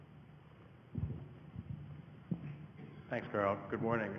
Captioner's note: microphone noises